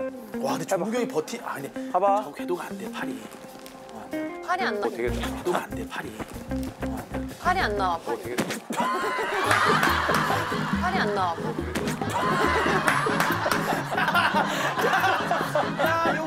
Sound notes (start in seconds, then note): 11.8 laughing